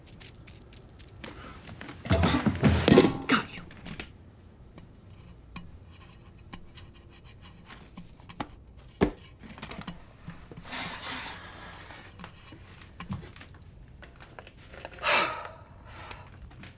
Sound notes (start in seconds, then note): 0.0 trash rustling; 4.6 metal tapping